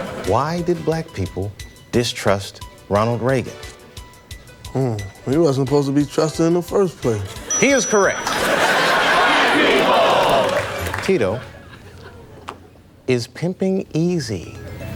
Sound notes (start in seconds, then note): 7.2 audience laughs